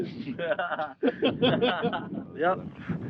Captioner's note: laughter